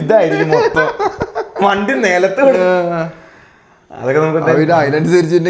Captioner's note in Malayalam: പൊട്ടിച്ചിരി